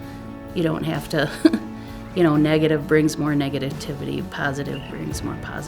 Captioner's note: chuckles